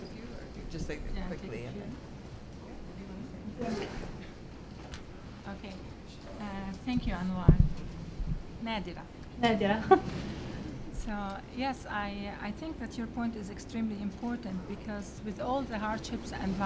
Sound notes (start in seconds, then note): 8.7 greets in Arabic